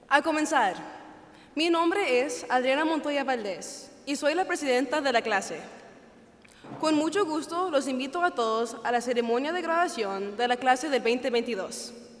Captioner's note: speaking Spanish